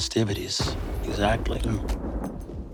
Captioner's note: thunder booms